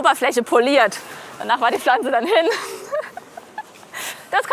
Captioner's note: laughs